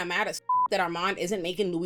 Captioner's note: beep